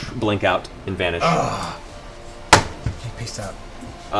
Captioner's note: groans